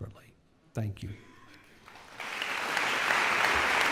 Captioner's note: applause